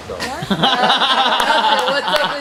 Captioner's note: laughing